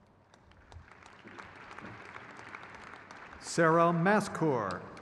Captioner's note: crowd claps